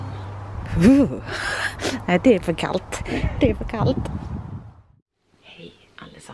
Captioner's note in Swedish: skratt